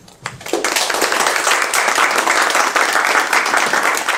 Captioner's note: applause